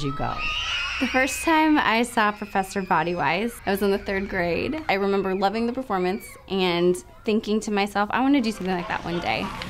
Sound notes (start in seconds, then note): 0.0 children cheering